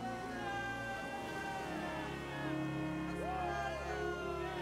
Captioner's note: all cheering